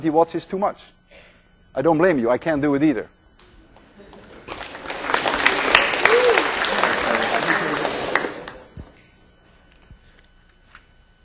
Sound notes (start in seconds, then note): 3.7 students applaud